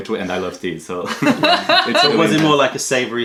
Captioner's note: laughter